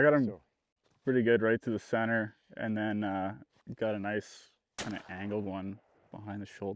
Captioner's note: gun firing